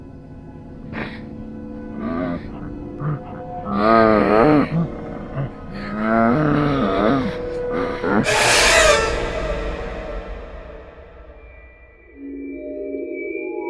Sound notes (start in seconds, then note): 2.0 monsterous wail